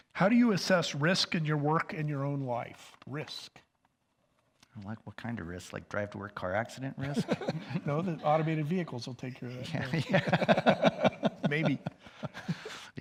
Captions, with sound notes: How do you assess risk in your work and in your own life, risk? - Like, what kind of risk? Like drive to work car accident risk? - No, the automated vehicles will take care of that. (both laugh) Maybe.